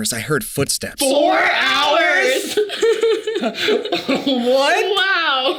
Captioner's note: laughs